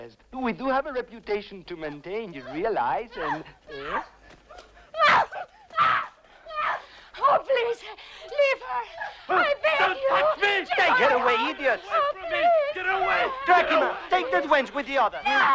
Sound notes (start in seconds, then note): 3.1 captive screaming